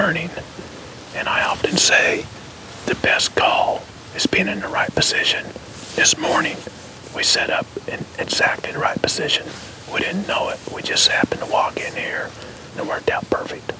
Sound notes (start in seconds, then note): 5.8 whispering